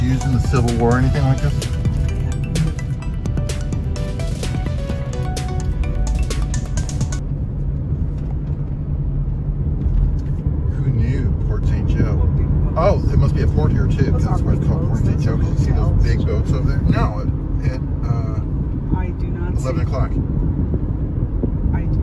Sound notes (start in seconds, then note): 2.2 upbeat music; 7.3 car engine purring